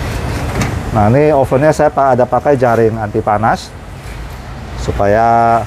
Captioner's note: oven lid noise